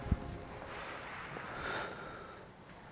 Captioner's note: deep breath